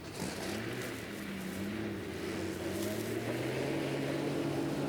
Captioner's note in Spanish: motor do carro roncando